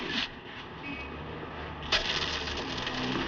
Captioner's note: coins Clattering